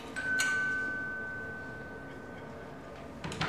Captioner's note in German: Türklingel läutet